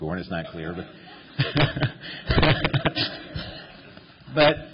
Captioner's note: laughter